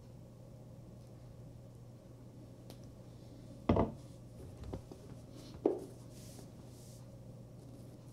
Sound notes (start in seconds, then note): 3.7 bottle thumps